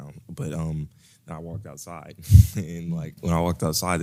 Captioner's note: laugh